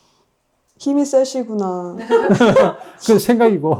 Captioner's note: everyone laughs